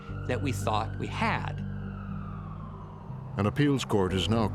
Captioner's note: siren wailing